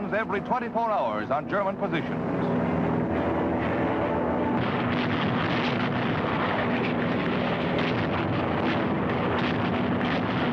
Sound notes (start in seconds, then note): 2.5 bombs exploding; 2.5 plane engines roaring